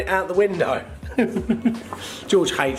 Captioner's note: laughs